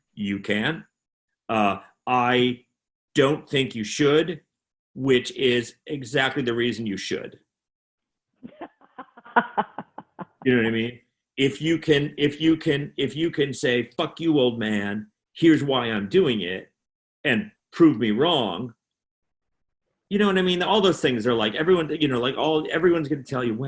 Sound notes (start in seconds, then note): 8.4 laughing